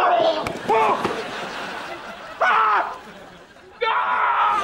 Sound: coughing; shrieking; coughing

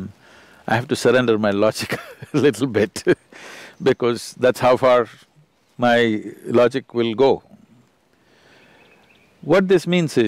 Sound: laughs

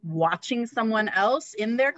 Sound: none

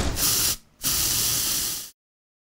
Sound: spraying

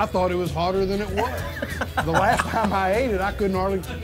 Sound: laughing

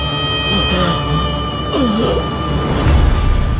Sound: groans

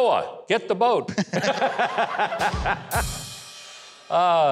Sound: laughs

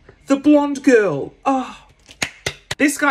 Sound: claps loudly

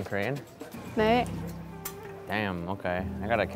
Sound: speaking in Korean

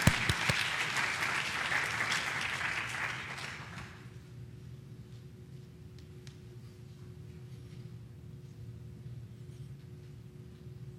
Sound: applause

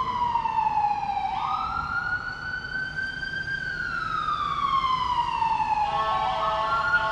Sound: fire engine sirens passing

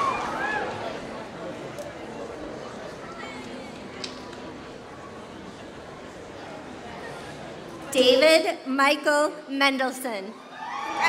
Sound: applause; applause

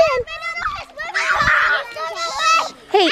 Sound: kids screaming

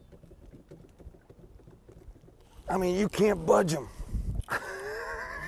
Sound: laughing

